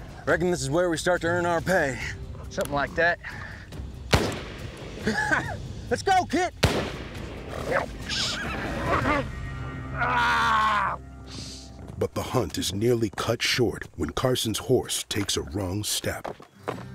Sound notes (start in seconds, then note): 4.0 gunshot; 5.0 chuckles; 9.8 grunts and yells